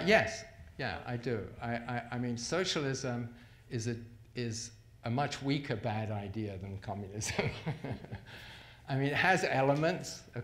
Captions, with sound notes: - Yes, yeah I do. I mean socialism is a much weaker bad idea than communism. (laughs) I mean it has elements.